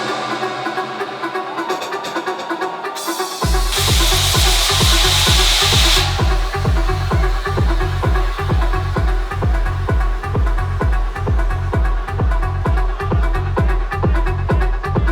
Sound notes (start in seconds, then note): 3.7 vapor hisses